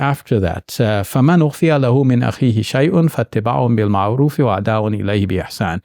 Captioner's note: speaking in foreign language